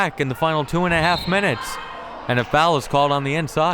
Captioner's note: whistle